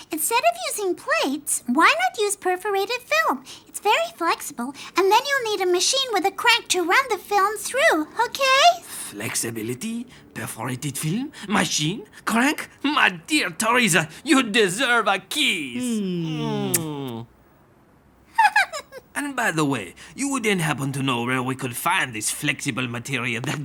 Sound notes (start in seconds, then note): 18.3 Tessa giggling